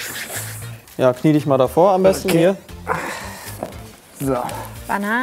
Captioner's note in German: ächzend